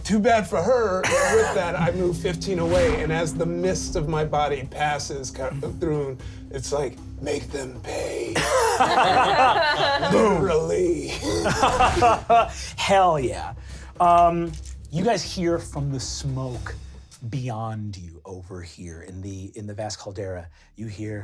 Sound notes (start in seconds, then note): 8.3 laughs